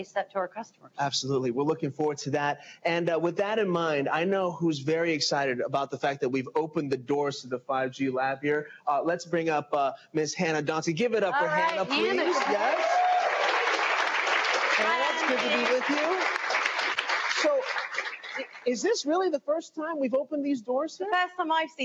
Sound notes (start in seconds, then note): 14.7 applause